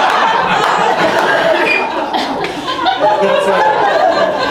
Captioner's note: audience laughs